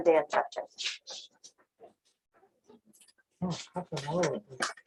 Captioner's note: background chatter